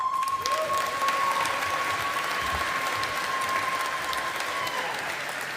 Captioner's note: audience applauding